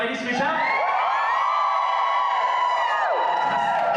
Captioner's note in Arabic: هتاف وصراخ